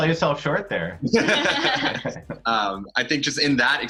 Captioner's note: all laughing